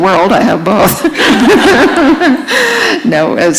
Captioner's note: laughter